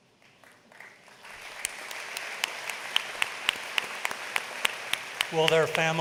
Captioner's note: applause